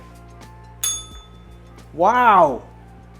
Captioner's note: bell rings